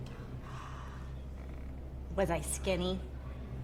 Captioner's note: gasps